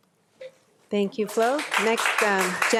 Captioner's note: audience applauding